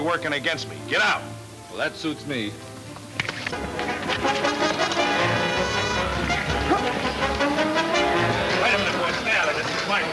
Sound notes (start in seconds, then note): 2.9 smacking; 3.5 exciting orchestra music